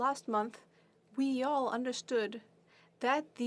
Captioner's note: speaking French